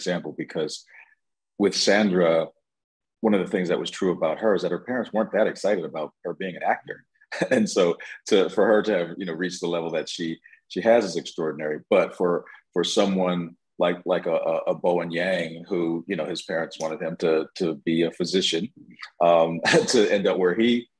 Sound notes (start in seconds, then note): 7.3 chuckles